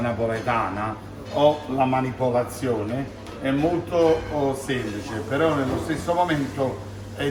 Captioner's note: speaking in foreign language